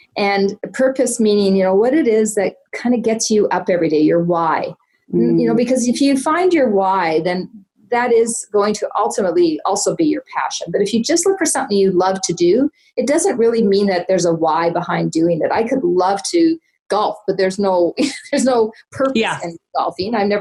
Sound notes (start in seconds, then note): 17.6 laughs